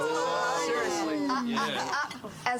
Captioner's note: crowd chattering